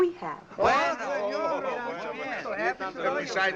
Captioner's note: exclaiming